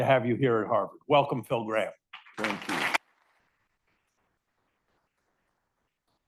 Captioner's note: audience applauds